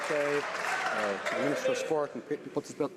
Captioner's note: some Applause